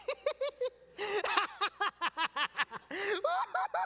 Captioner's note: laughter